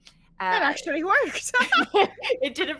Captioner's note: laughing